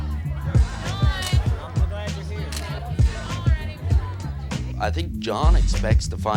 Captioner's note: hip hop music; camera shutter clicks